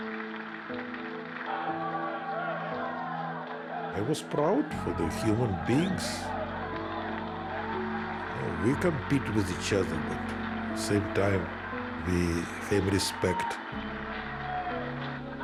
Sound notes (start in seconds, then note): 0.0 applause; 1.4 cheering